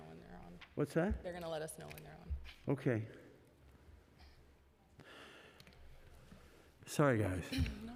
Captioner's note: laughter